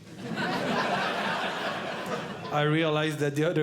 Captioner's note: audience Laughing